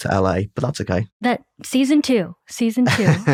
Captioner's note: laughter